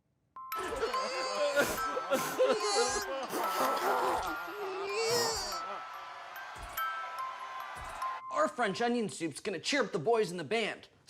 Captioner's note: crying and sobbing